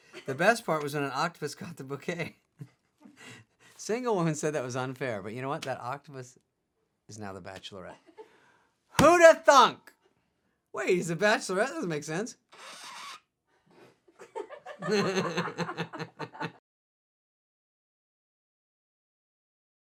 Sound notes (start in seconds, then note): 12.6 scratch; 14.2 laughing